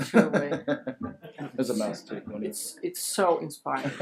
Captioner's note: laughs